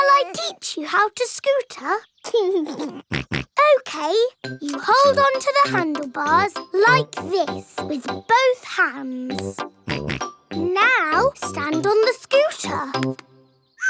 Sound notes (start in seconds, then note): 2.5 laughs and snorts; 9.8 snorts